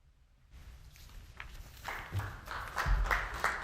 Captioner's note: applause